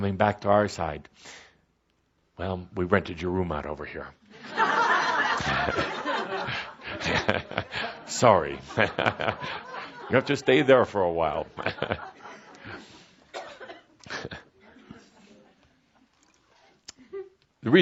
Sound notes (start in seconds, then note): 4.4 laughter; 5.3 Kuthumi chuckling